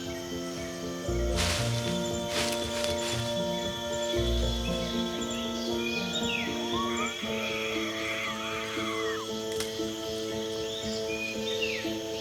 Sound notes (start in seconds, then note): 0.8 leaves rustling; 4.6 melodious music; 8.1 monkey chattering